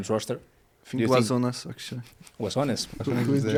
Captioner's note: all laugh